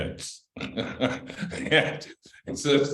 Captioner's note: laughter